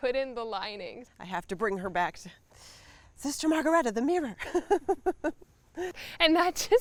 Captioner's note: laughs